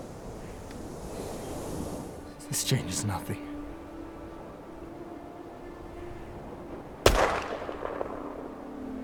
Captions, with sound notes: This changes nothing. [Gunshot]